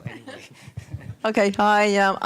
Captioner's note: laughter